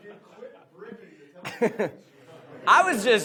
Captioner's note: laughs